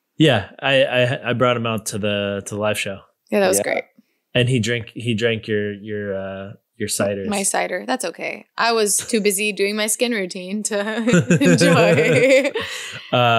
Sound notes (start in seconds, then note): 11.0 laughs